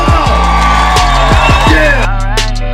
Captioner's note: crowd cheering